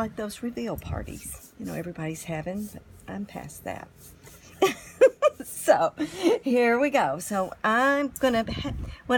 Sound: laughing

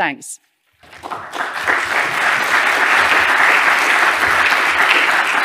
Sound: audience applauding

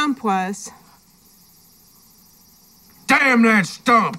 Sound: insects chirping

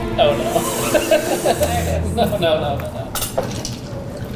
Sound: laughing

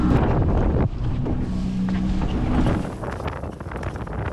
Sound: boat engine rumbles; wind rustling

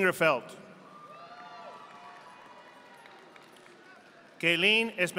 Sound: audience applauding

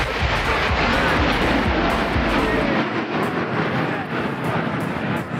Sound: jet engines whooshing; upbeat music

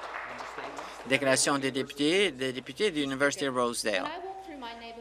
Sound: applause

